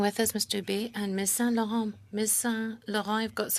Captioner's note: speaking French